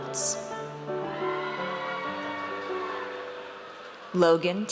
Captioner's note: audience cheers